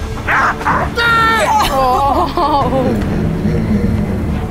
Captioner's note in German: Schrei